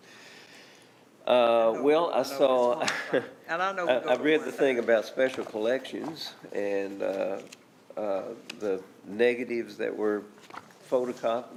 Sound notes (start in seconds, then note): 2.7 chuckles; 3.0 speaking quietly